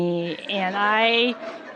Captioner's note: laughter